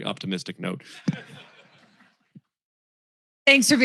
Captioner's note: laughter